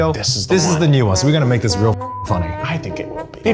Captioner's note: beep